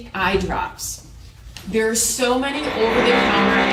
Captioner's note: tool motor whirring